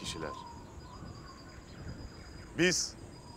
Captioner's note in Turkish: Kuş cıvıltısı sesleri; Rüzgâr sesi